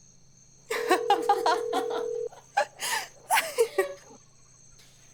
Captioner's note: laughter